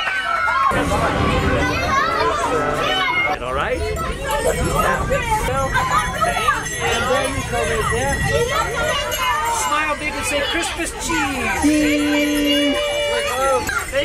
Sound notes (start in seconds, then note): 4.6 bells jingling